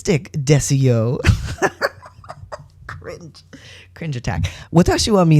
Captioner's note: laughter